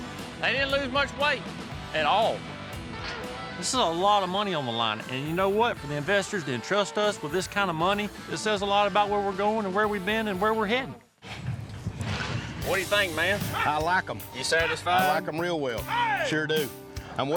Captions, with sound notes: THEY DIDN'T LOSE MUCH WEIGHT AT ALL. THIS IS A LOT OF MONEY ON THE LINE, AND YOU KNOW WHAT? FOR THE INVESTORS TO ENTRUST US WITH THIS KIND OF MONEY... IT SAYS A LOT ABOUT WHERE WE'RE GOING AND WHERE WE BEEN, AND WHERE WE'RE HEADIN'. [HOOF BEATS] WHAT DO YOU THINK, MAN? - I LIKE 'EM. - ARE YOU SATISFIED? I LIKE 'EM REAL WELL; SURE DO.